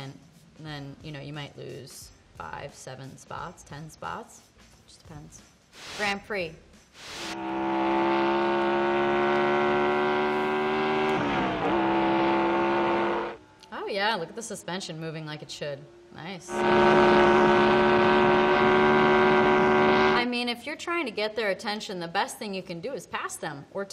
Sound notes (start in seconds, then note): 7.2 race car engine revs